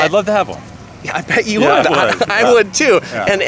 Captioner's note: laughs